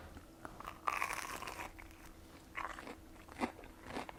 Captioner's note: bread crunching